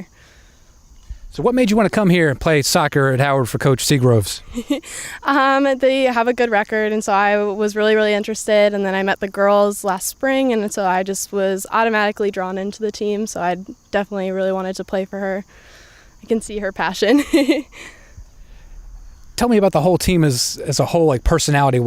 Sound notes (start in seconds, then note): 17.0 laughs